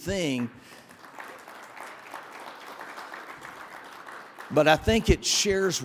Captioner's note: audience applauding